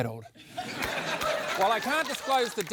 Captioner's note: laughter